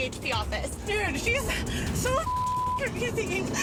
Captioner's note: beeps